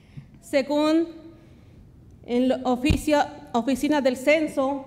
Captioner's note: speaks Spanish